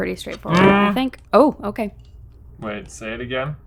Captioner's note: groans